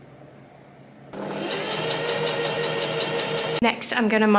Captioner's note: sewing machine surges